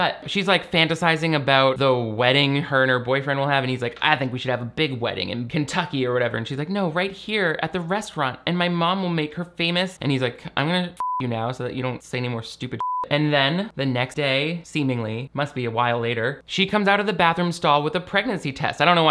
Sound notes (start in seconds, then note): 11.0 beep; 12.8 beep